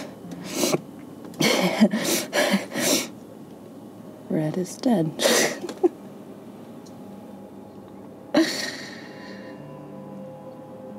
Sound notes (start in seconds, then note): 1.4 laughs; 5.9 ominous music